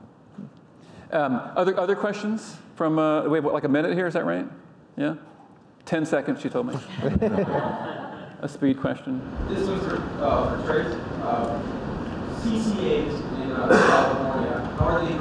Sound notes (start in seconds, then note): 6.8 audience laughing